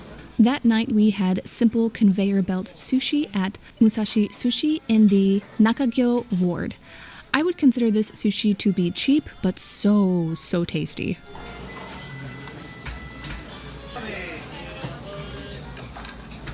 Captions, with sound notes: That night we had simple conveyor belt sushi at Musashi Sushi in the Nakagyo Ward. I would consider this sushi to be cheap, but so so tasty. (quiet restaurant noises)